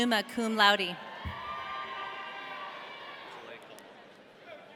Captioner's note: audience cheering